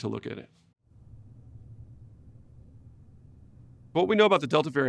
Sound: silence

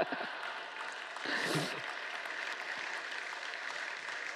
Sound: laughter; applause

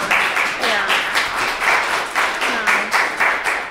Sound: class clapping

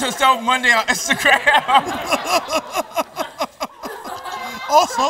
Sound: laughter

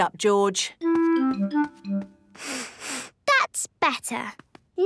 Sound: sniffs

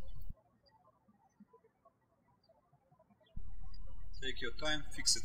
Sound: birds chirping

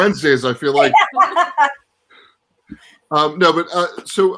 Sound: laughs

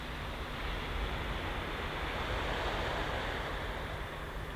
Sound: waves crashing

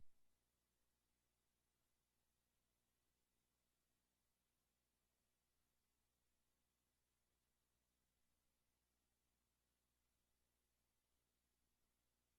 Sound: silence

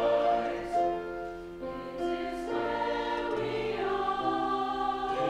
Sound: high voices

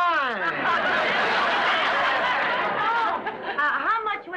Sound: audience laughs

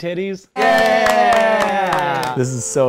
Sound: cheering

